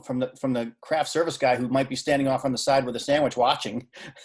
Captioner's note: laughing